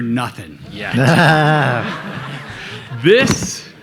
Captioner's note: everybody laughing